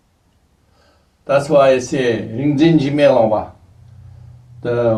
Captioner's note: tibetan